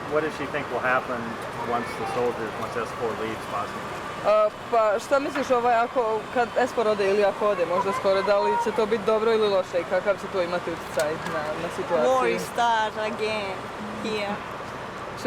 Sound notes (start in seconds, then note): 4.5 speaking a foreign language